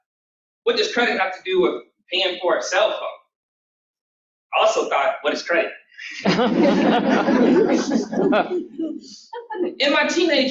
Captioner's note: laughter